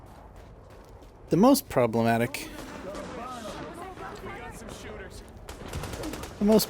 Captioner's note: gun shots